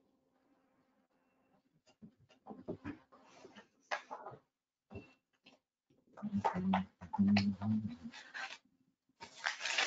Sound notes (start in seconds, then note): 2.6 furniture shifting; 6.2 humming